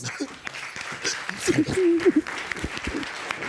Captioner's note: both sobbing